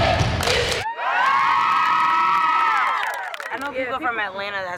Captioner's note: shouting